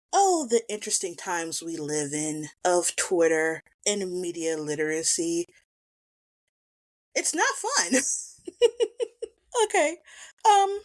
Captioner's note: laughs